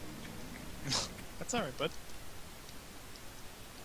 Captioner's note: chuckling